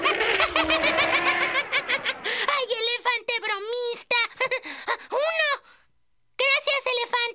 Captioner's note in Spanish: el elefante barrita; se ríe